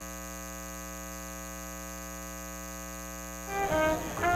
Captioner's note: continuous buzzing; classic jazz music